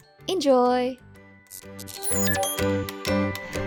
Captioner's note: blip